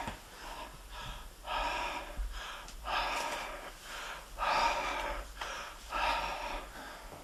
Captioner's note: breathing sounds